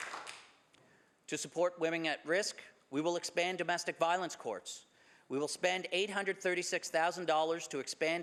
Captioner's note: some Applause